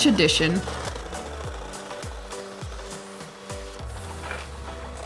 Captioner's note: motor whirring